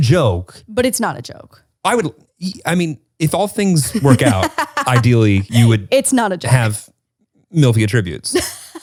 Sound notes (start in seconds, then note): 3.8 laughs